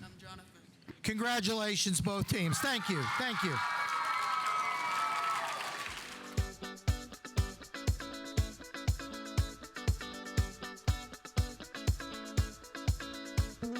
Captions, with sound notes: - I'm Jonathan. - Congratulations both teams, thank you, thank you. (audience applauding) (audience cheering) (uptempo music)